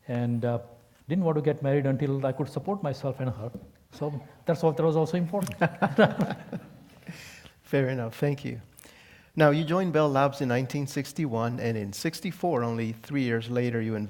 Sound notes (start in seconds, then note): 5.4 laugh